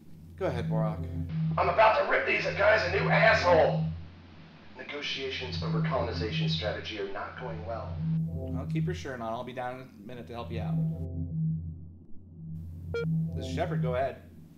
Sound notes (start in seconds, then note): 1.5 Borock’s little brain voice